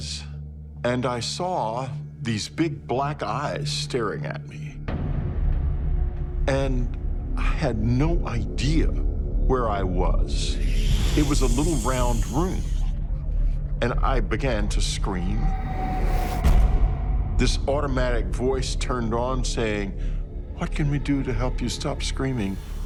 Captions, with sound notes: and I saw these big, black eyes staring at me. [ominous music plays] And I had no idea where I was. It was a little round room. -And I began to scream. -[scream echoing] This automatic voice turned on, saying, "What can we do to help you stop screaming?"